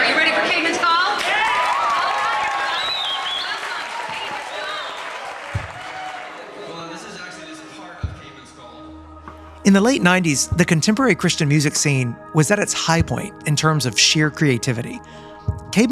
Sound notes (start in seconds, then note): 1.6 crowd applauding